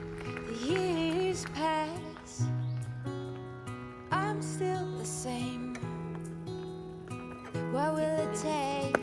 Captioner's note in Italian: Applauso